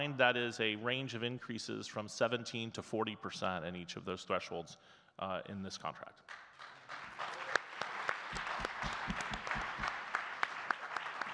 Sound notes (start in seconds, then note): 6.2 audience clapping